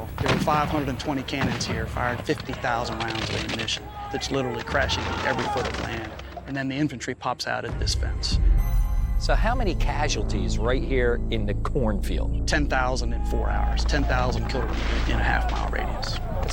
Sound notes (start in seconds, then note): 3.6 musket Fire